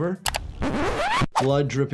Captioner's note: mouse clicks; video scratches